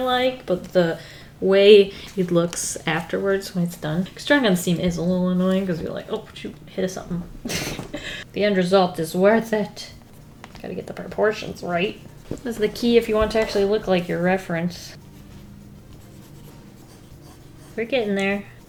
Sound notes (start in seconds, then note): 7.4 laughs